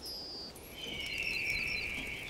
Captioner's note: eagle whistles